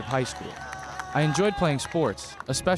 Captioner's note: audience cheering and clapping